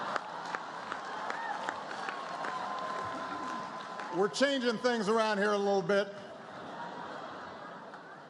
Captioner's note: applause; laughter, applause; laughter